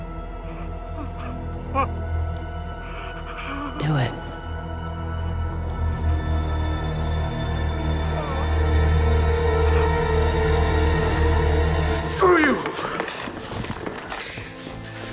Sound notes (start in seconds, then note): 1.6 crying